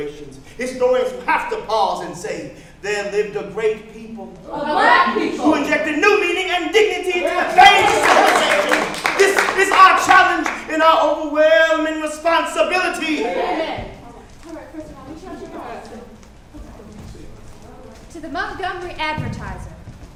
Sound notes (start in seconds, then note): 6.8 audience cheering; 7.1 audience applauding